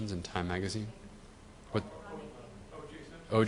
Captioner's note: audience chattering